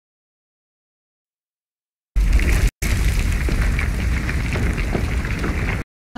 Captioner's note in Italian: trema il terreno